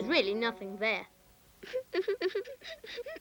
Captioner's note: weeping